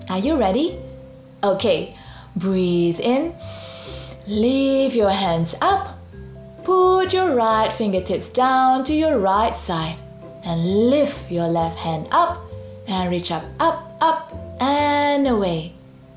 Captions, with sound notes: Are you ready? Okay. Breathe in. (breathes in deeply) Lift your hands up. Put your right fingertips down to your right side and lift your left hand up and reach up up, up and away.